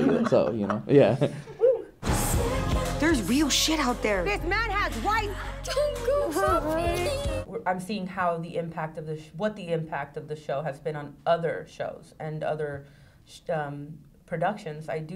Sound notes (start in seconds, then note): 0.0 laughs; 7.1 crying